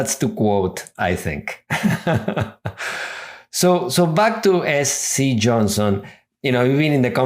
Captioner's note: laughs